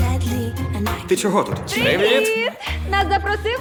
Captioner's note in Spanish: golpes